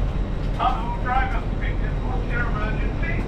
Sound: voice over intercom

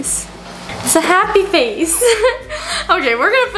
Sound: laughs

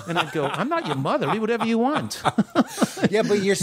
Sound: laughter

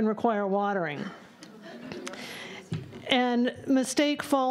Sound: laughter

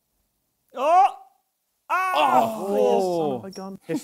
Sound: both groaning

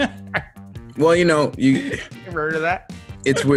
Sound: laugh; laugh

